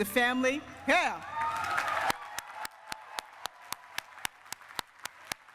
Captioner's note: cheering and applause